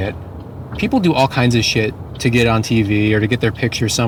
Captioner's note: none